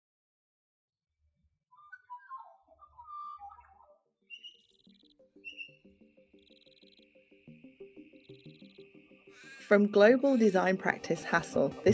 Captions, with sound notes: (birds singing) (gentle music) - From global design practise, Hassell,